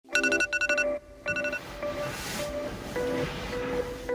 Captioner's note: alarm beeping